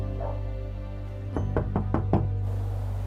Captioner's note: knocking on door